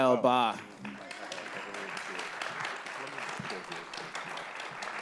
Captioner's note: applause